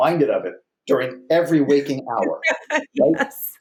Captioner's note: laughs